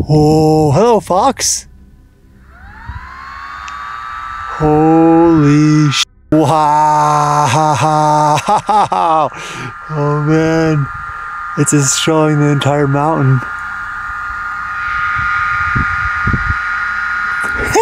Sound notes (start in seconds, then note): 1.7 cooling fan turning on; 14.6 cooling fan spinning; 17.4 speaker laughing